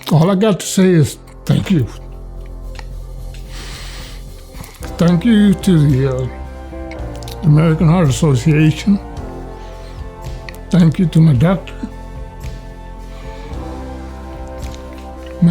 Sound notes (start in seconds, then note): 3.3 inhales deeply; 8.6 inspirational music; 12.7 inspirational music